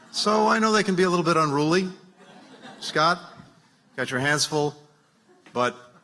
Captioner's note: laughter